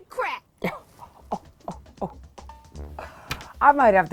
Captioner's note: Regina laughing